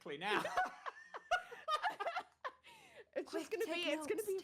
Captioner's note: all laughing